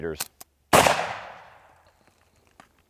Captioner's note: gun shooting